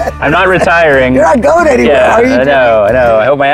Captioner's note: laughs